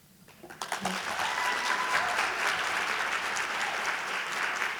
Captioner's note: audience applauding